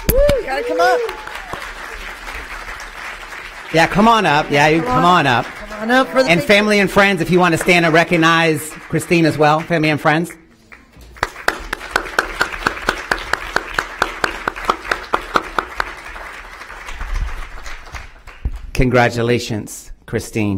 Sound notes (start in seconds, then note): 8.8 cheering and applause